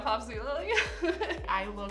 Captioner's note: laughs